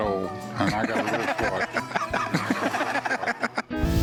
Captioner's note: laughter